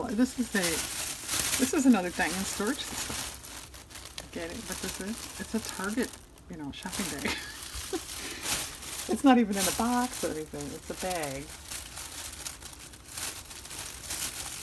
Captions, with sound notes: this is another Diane storage system it's a Target shopping bag (laughs) it's not even in a box or anything, it's a bag